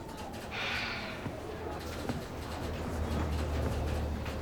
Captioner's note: sighs